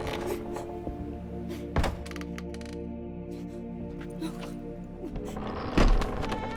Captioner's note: gasping, panting